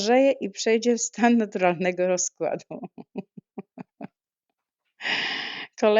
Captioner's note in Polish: śmiech